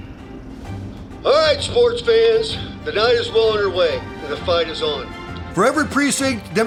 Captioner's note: radio